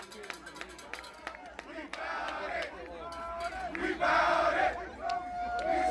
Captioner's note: team chanting